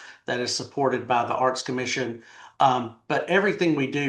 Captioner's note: none